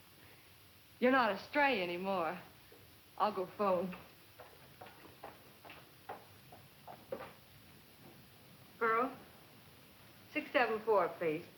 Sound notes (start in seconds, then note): none